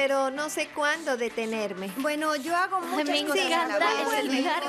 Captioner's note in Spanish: teléfono sonando y SciGirls hablando a la vez